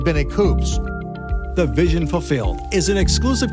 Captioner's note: male Voice